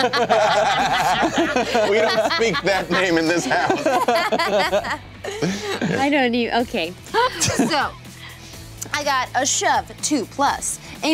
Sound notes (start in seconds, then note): 0.0 laughing